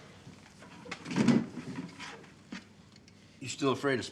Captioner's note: box thuds